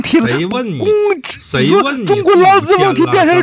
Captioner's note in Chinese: 大笑